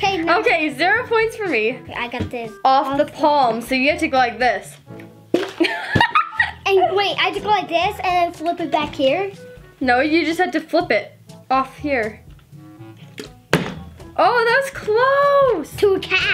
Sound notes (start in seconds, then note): 5.3 bottle landing; 5.6 giggling; 13.4 bottle landing